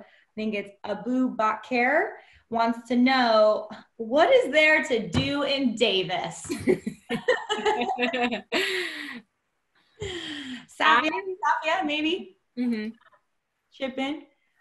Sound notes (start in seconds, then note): 9.2 laughter